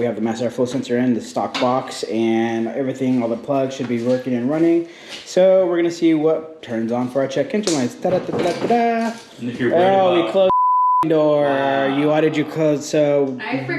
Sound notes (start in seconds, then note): 8.0 joyfully cheering; 10.4 high pitched beeping